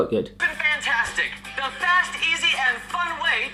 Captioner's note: voiceover